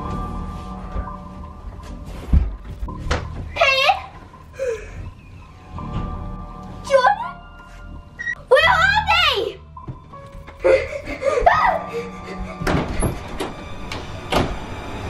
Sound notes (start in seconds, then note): 10.6 gasping